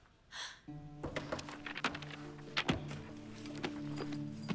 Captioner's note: gasps